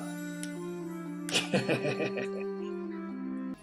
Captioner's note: laughs